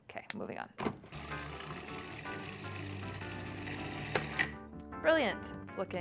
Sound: food processor whirring

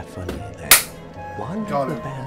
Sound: clap

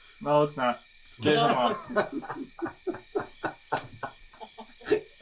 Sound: laughter

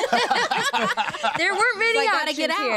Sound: laughs

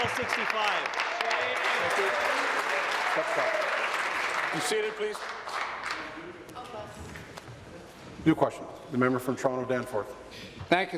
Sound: applause

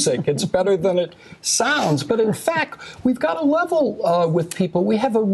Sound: laughter

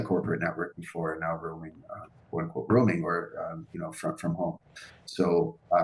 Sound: murmurs

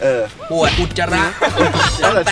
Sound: laughs

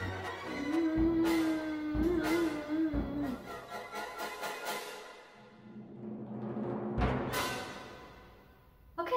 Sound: moan of defeat

